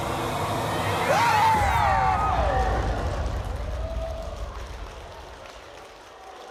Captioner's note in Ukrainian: оплески